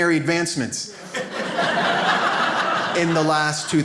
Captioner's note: audience laughs